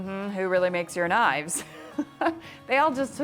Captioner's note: laughs